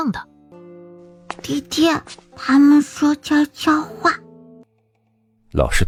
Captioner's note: someone whispers